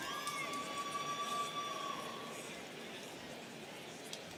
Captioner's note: students cheering